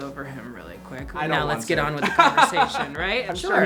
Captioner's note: laughs